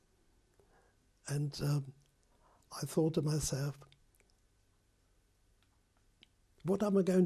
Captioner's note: pauses for 3 seconds